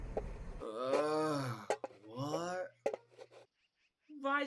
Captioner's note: groans